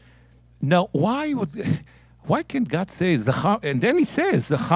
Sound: speaking in Hebrew; speaking in Hebrew

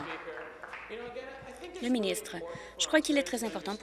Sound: applause

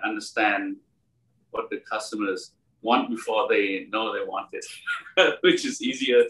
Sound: laugh

